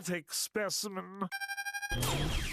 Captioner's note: electronic beeping